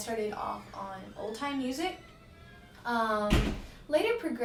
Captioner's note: door creaking